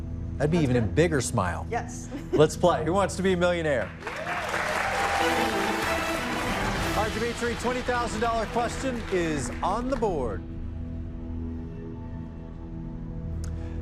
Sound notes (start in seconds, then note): 3.8 cheers and applause; 5.0 dramatic music